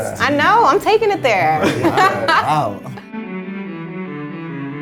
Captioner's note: laughing; classical cello music